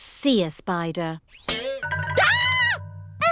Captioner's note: screams